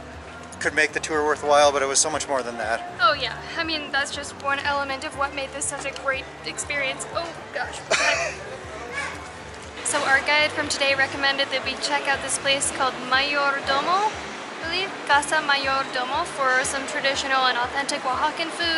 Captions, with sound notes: could make the tour worthwhile, but it was so much more than that. Oh, yeah! I mean that's just one element of what made this such a great experience. Oh gosh! (Laughter) So, our guide from today recommended that we check out this place called Mayordomo, "Casa Mayordomo" for some traditional and authentic Oaxacan food,